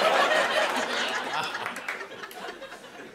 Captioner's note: laughter